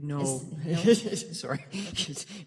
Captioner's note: laughing